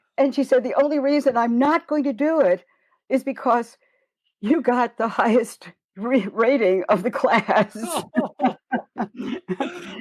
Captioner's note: laughter